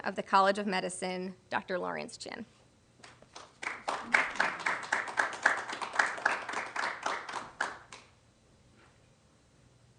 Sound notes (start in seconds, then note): 3.0 applause